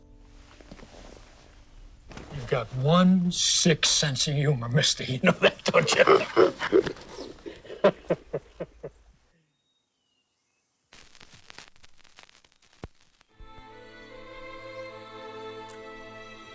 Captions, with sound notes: YOU'VE GOT ONE SICK SENSE OF HUMOR, MISTER. YOU KNOW THAT, DON'T YOU? [laughs] [soft classical music]